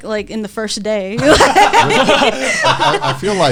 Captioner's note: all laughing